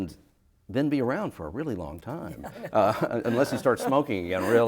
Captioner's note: laughter